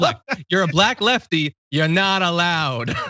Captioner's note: laugh